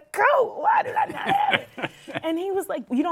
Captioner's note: laughs